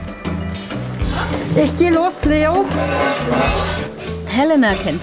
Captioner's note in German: Klirren aus der Küche